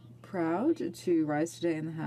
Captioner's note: speaking in French